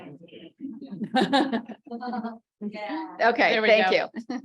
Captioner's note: laughs